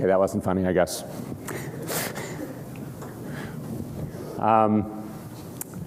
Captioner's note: laughter